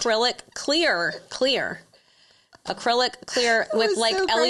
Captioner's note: laughs